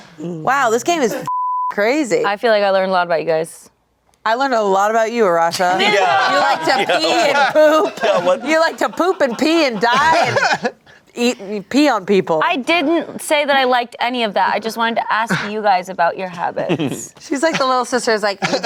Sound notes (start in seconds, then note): 1.2 beep; 5.6 everyone laughs; 10.3 laughs